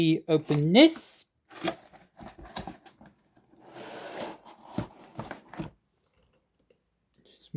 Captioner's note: box opening sound